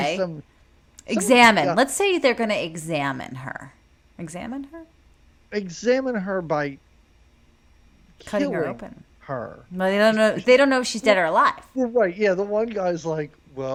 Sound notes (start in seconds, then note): none